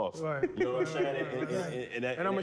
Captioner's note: laughter